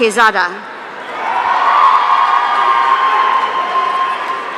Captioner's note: audience cheering